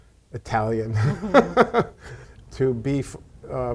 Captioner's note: chuckles